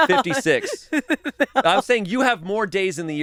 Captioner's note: laughs